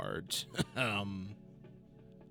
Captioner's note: ahem